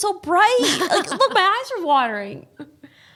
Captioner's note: laughing